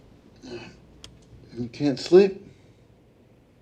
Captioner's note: grunts